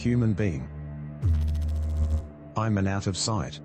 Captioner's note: electrical noise